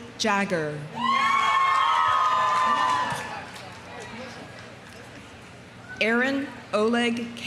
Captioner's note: audience cheering; audience applauding